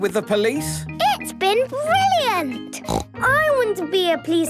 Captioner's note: snort